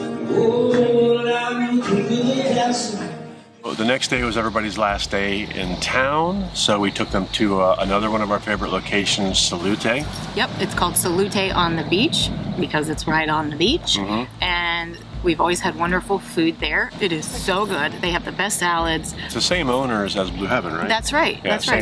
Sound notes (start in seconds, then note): 13.7 laughs; 13.9 people cheering